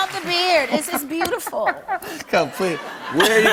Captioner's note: applause; laughs